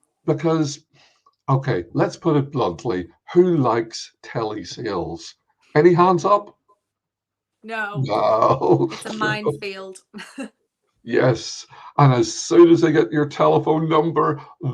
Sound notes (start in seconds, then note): 7.8 laughing; 8.0 chuckling